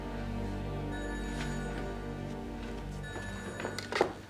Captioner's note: phone ringing